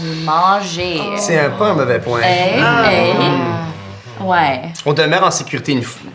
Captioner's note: noises of approval